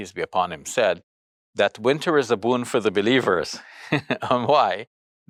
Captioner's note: chuckles